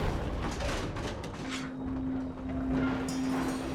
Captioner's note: ominous whirring; thudding; low rumbling